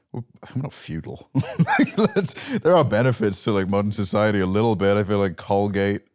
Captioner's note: laughs